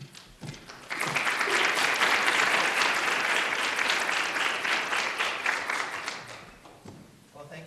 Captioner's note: applause